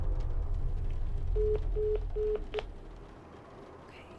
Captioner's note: busy signal beeping